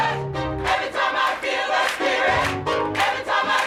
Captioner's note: audience begins clapping to the beat